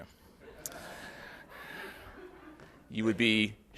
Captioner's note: audience laughs